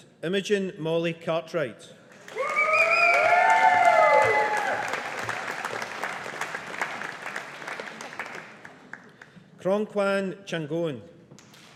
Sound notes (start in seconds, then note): 2.1 audience applauding